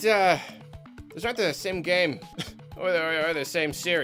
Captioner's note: cough